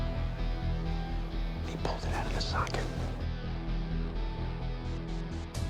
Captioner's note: whispering